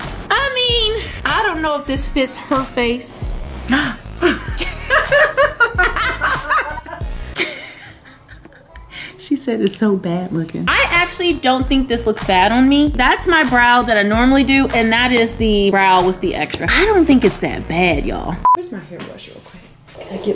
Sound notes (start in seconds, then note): 3.7 gasps, Laughs; 7.3 laughs